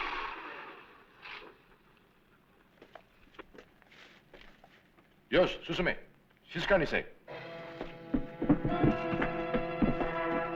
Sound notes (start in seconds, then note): 5.2 non-english speech; 7.3 intriguing music